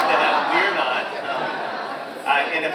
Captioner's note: audience laughs